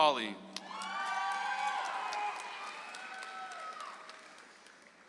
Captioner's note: audience applauds